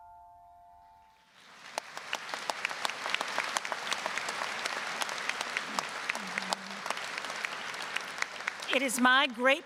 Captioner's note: delicate ambient music; applause